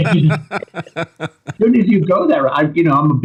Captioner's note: laughter